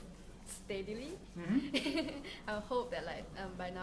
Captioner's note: laughs